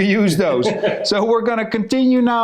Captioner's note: chuckles